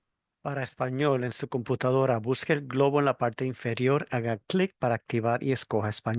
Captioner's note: spanish interpreter speaking Spanish